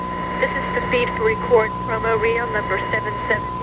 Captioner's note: faint Woman's Voice